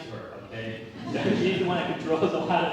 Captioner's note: laugh